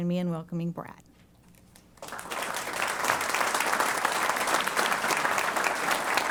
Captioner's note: applause